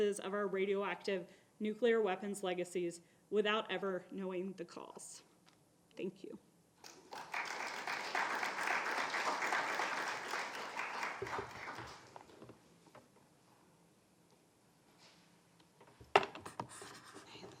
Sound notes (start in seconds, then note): 6.8 audience applauding